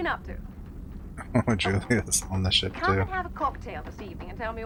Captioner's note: chuckling